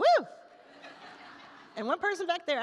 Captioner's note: attendees laugh